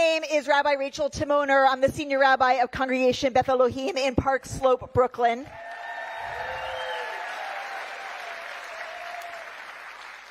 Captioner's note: cheering